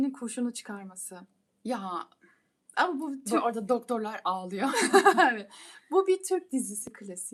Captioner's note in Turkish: kahkaha